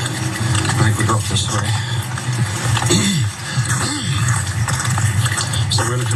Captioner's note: cough